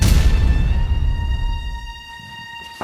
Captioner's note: none